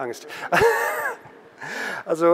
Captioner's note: laughter